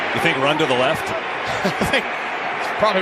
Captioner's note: chuckles